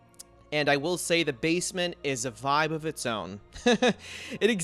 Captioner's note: laughs